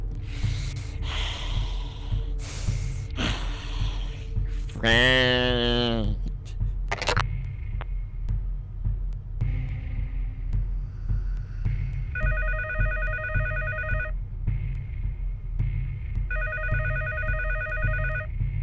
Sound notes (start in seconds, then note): 0.2 soft breathing; 12.2 phone rings; 16.3 phone rings